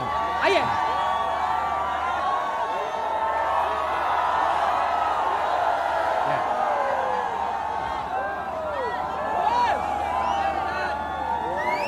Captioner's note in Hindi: चियरिंग